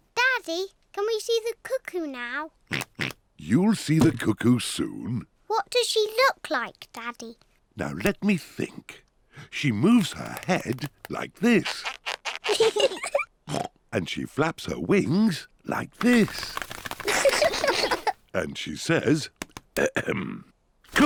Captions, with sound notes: -Daddy, can we see the cuckoo now? -(OINKS) -You'll see the cuckoo soon. -What does she look like, Daddy? Now, let me think. She moves her head, like this. -(BOTH LAUGH) -(OINKS) And she flaps her wings like this. -(BOTH LAUGH) -And she says, ahem,